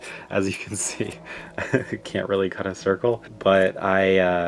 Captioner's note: laughs